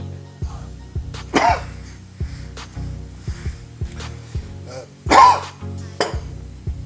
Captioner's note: cough, cough